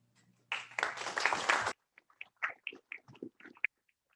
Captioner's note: applause